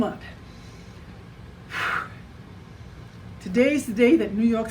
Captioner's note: exhales deeply